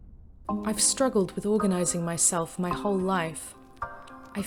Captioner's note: voiceover